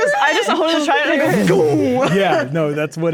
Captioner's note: both imitating explosions